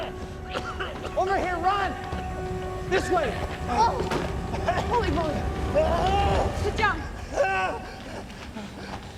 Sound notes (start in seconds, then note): 0.0 Wally coughing; 5.8 screaming